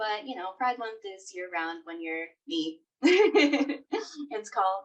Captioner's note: laughing